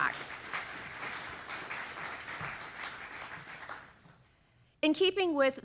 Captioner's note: applause